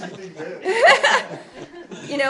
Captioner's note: laughter